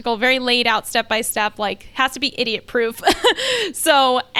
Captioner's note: laughs